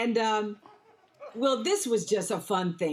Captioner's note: audience laughs